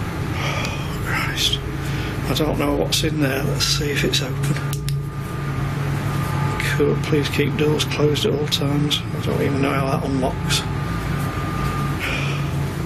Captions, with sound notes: Oh, Christ. I don't know what's in there. Let's see if it's open. (torch clicking) Please keep doors closed at all times. I don't even know how that one locks. (sighing)